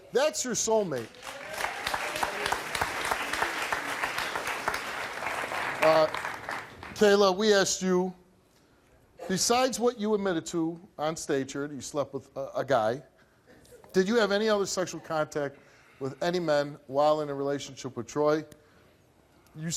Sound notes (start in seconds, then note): 2.3 applause